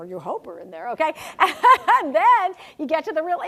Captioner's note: laugh